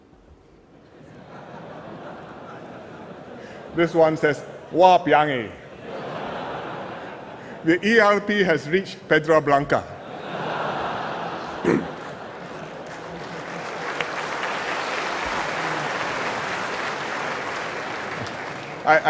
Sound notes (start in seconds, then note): 1.0 laughter; 5.7 laughter; 14.0 laughter and applause